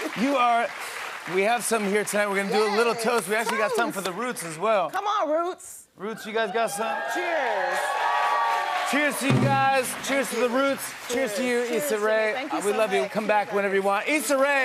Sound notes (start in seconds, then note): 6.5 cheers and applause